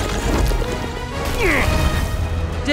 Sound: jack grunts

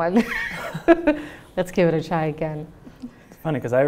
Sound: laughs

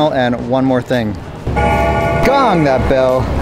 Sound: bell chimes

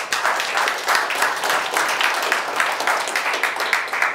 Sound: audience applauds

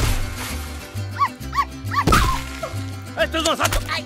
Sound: barking* ... *crash

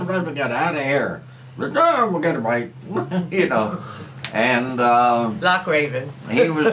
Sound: laughs

